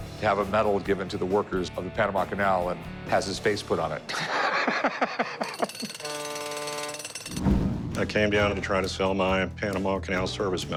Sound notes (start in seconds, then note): 4.1 laughs